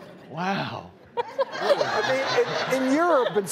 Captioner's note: laughing